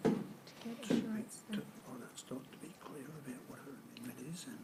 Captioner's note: speaking faintly